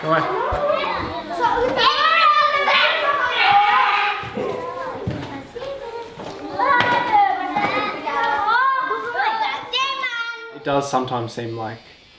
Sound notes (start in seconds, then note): 1.9 kids shouting; 9.9 foreign language